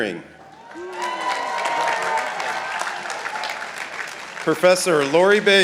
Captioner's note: participants applauding